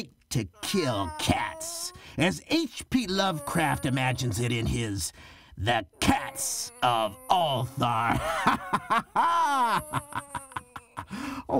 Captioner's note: maniacal laughter